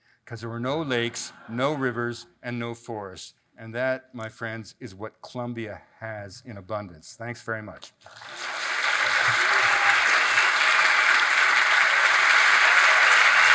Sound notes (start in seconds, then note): 8.0 audience applauds